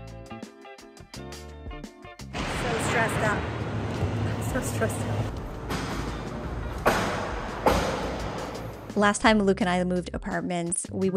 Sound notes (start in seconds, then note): 5.4 demolition banging in the background